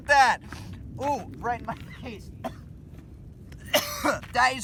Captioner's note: coughs